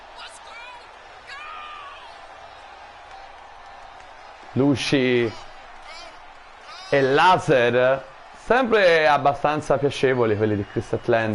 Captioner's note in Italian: Applauso